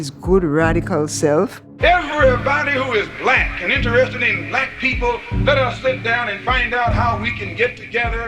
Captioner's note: soundbite of archived recording